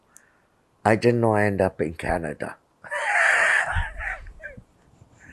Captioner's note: laughing